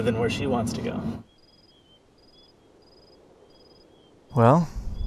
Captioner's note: crickets chirping